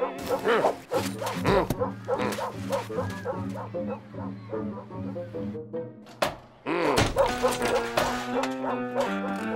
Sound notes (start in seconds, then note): 7.0 dog whimpers